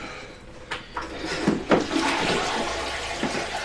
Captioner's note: toilet flushes